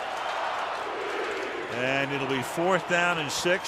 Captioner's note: crowd chanting